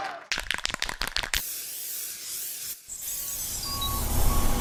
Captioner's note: spray can shakes